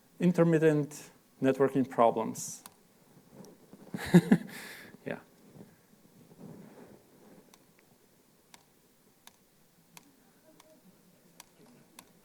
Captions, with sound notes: Intermittent networking problems. [LAUGHS] Yeah.